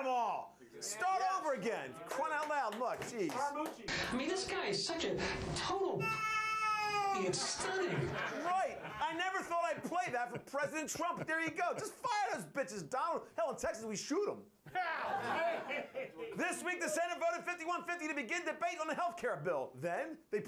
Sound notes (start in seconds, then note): 7.6 cat meowing; 14.7 laughter